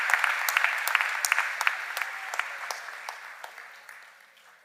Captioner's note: cheers and applause